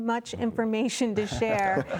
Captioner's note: laughter